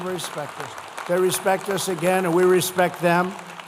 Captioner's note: applause